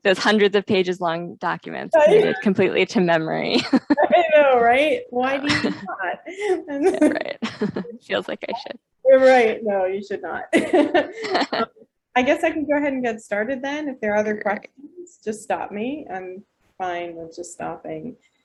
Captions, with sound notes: those hundreds of pages long documents completely to memory. -I know, right? -(laughing) It feels like I should. -Right, no, you should not. -(laughing) I guess I can go ahead and get started , then if there are other questions, just stop me, I'm fine with just stopping.